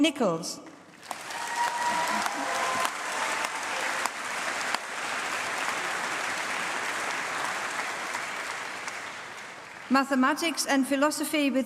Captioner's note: applause